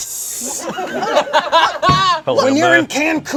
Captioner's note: group laughs